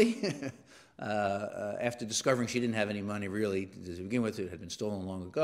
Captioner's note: laugh